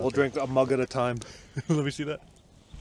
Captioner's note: laughs